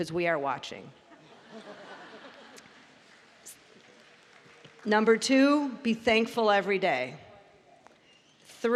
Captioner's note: laughter